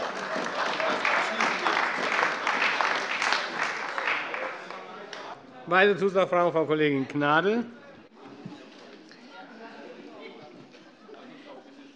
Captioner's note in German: Heiterkeit und Beifall bei der CDU und dem BÜNDNIS 90/DIE GRÜNEN